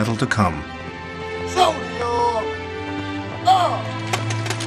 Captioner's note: commander shouts